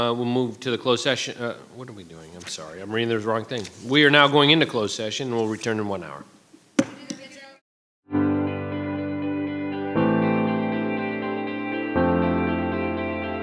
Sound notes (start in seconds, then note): 6.7 gavel thuds; 8.2 gentle music